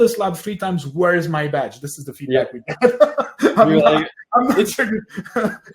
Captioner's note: laughs; laughs